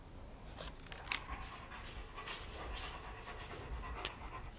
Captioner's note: pen scribbling; dog panting